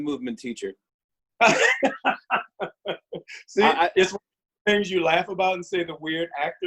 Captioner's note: laughs